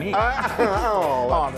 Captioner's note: men laughing